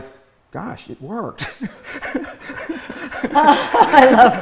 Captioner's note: laughs